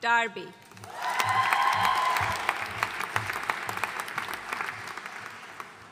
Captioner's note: audience cheering and applauding